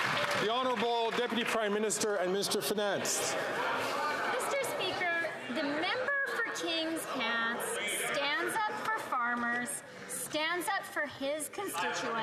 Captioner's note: some Applause